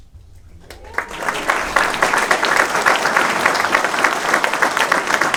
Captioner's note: cheering, applause